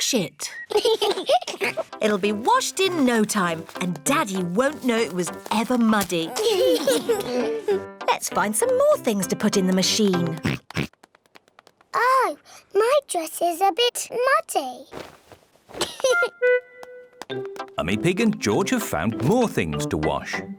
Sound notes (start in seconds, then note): 0.6 both giggle; 10.4 oinks; 15.8 giggles